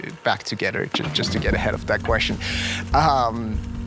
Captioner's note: laughs